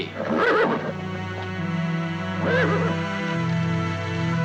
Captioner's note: horses whinnying